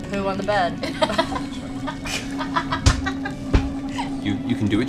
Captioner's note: laughter